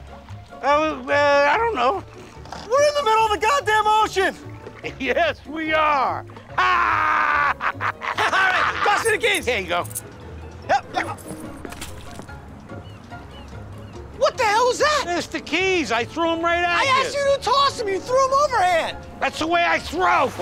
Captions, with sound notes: I don't know. We're in the middle of the goddamn ocean. Yes, we are. [LAUGHTER] All right, toss me the keys. Here you go. Hup! [SPLASH] What the hell is that? It's the keys. I threw them right at you. I asked you to toss them. You threw them overhand. That's the way I throw.